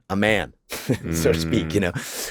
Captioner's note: chuckles